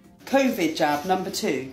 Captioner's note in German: englisch